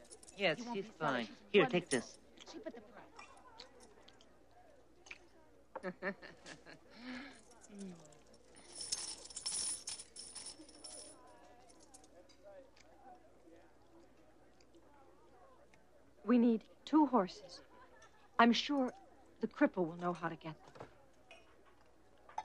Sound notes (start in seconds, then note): 5.8 laughing; 8.4 coins tinkling